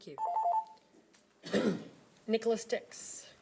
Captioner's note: alarm rings